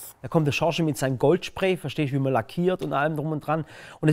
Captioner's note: none